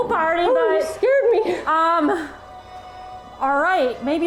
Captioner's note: laughs